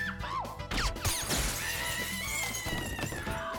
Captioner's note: gunshot